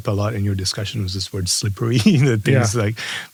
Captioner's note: laugh